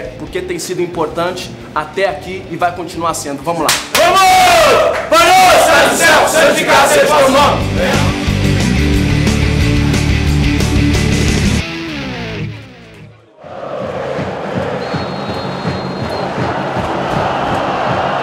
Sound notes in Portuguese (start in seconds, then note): 3.9 gritos de incentivo; 16.9 sons da torcida